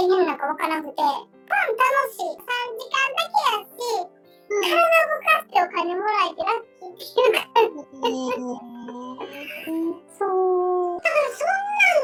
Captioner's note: laughs